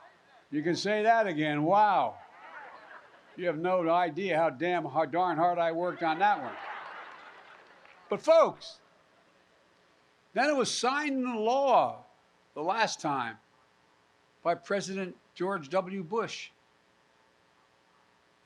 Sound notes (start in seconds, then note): 5.8 laughter and applause